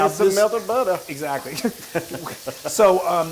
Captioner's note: laugh